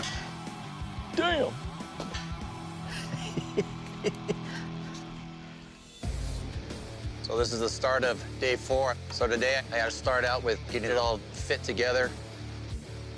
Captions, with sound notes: Damn. [laughs] So this is the start of day 4. So today, I've got to start out with getting it all fit together.